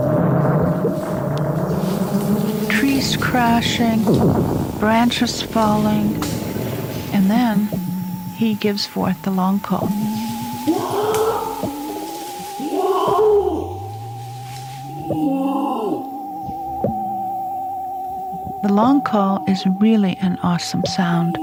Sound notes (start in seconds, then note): 0.2 soft theremin music; 0.2 spaceship radars whirring; 10.9 orangutan long call howling; 10.9 soft theremin music